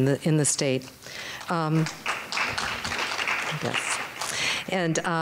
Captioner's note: audience clapping